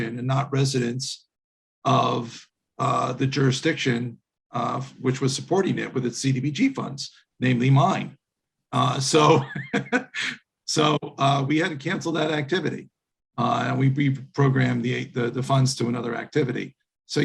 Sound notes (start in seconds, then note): 9.0 laughing